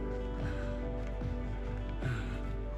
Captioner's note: exhales